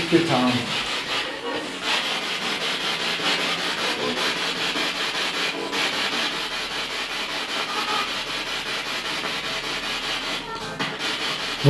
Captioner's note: radio noise from the spirit box